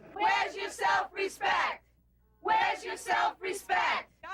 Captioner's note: chant